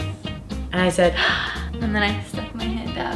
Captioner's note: gasps